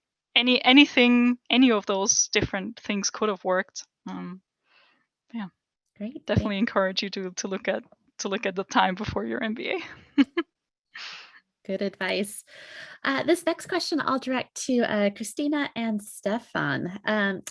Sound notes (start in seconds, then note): 10.1 laugh